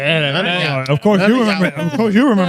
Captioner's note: speaking In Foreign Language